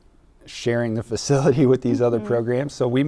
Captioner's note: laughing